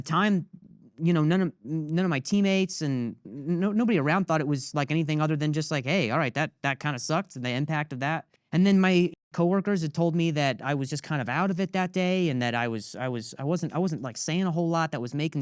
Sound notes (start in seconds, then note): none